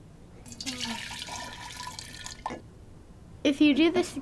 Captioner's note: water pouring